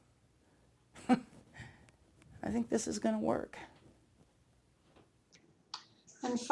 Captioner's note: giggle